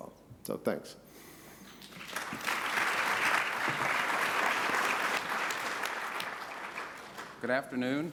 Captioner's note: applause